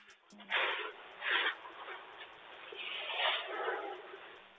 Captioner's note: shuffling sound